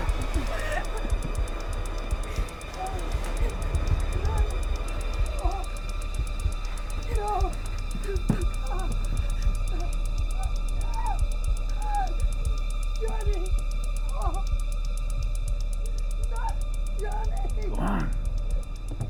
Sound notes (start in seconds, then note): 0.1 Tina gasps; 2.8 muffled groaning